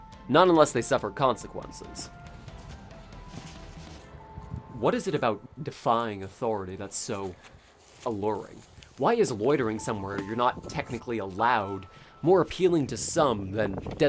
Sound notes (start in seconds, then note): 2.2 footsteps in grass, ambient city sounds